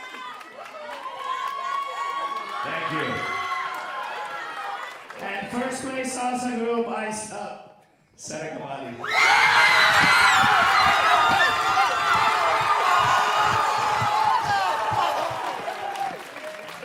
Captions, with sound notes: Thank you. And first place Salsa group is Seneca Valley. [audience cheering and applauding]